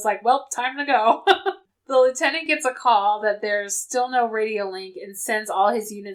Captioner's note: laughs